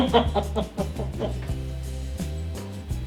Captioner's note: laughter